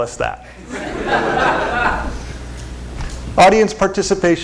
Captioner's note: laughter